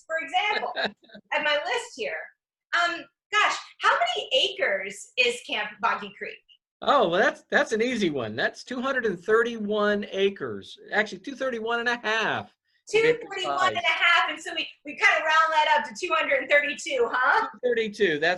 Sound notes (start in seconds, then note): 0.5 laughs